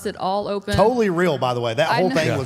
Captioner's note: laughs